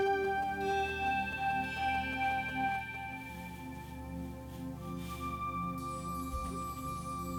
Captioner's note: light brushing; light tapping